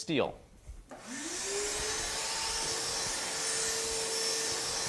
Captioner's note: vacuum whirling